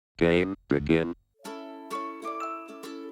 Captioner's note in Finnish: Robottiääni; iloista musiikkia